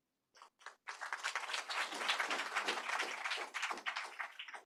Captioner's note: applause